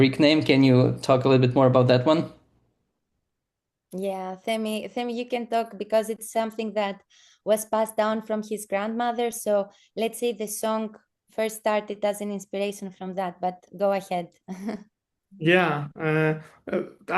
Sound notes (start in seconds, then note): 14.5 chuckles